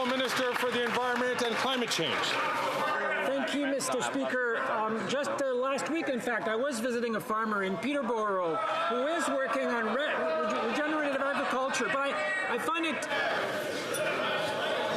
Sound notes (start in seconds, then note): 2.2 some Applause